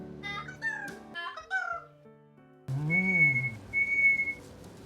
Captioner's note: Rainbow chirping